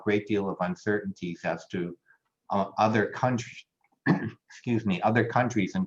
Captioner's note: coughs